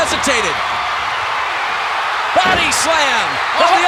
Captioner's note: audience cheering